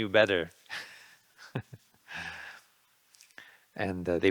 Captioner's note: laughing